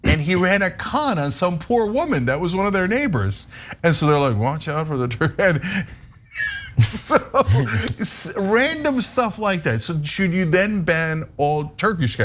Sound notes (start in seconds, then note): 6.3 laugh